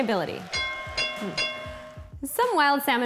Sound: bell ringing

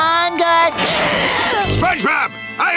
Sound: screaming

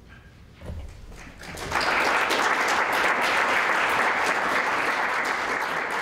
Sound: applause

